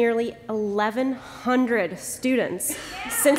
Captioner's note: applause